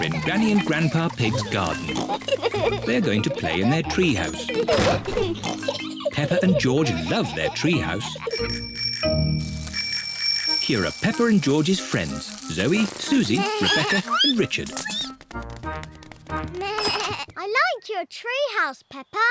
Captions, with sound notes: They're going to play in their tree house. -Peppa and George love their tree house. -(BICYCLE BELLS RINGING) Here are Peppa and George's friends, Zoe, Suzie, Rebecca and Richard. (BLEATS) I like your tree house, Peppa. -Can we come in? -Yes.